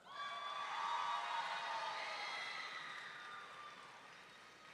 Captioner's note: audience cheering